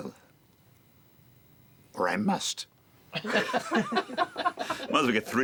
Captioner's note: laughter